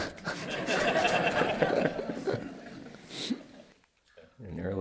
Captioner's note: laughter